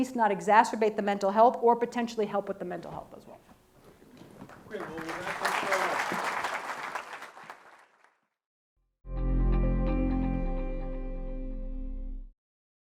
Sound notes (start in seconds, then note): 4.4 audience clapping; 9.0 soft music